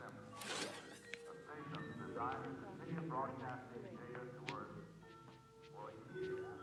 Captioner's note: television chatter continues